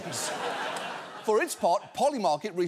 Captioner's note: audience laughs